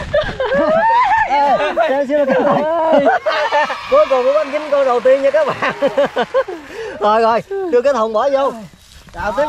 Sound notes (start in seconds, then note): 3.6 applause; 5.4 laughter